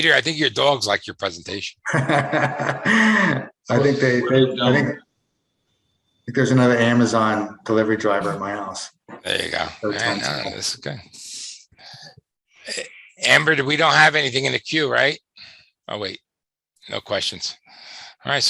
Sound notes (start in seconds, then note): 1.8 laughs